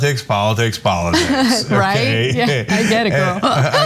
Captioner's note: laugh